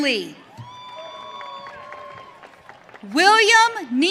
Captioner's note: audience cheering